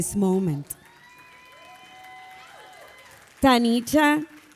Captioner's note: audience applauding; audience cheering